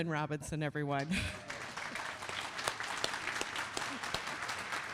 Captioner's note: applause